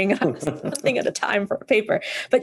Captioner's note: laughs